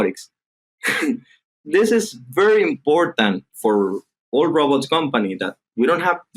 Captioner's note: chuckling